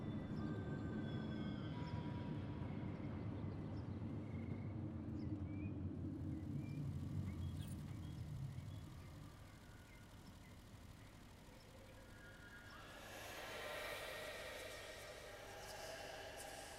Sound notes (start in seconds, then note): 12.8 creepy whispering